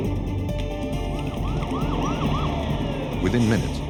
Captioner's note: sirens